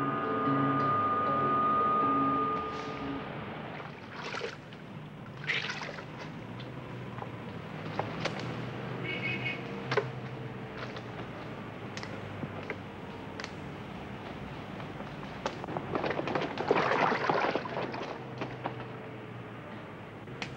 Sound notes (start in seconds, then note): 0.0 dramatic music; 5.3 burbling liquid; 9.0 car horn honks; 9.2 traffic hums; 15.9 burbling liquid